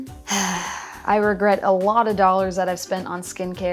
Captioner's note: sighs